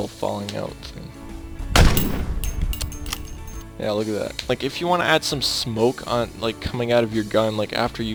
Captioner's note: gunfire